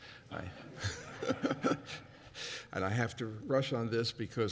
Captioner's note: laughter